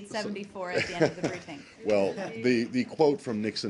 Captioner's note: laughter